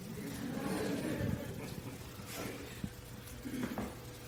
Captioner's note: audience laughs